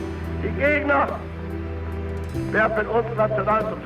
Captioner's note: German spoken audio